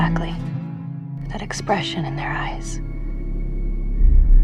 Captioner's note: voiceover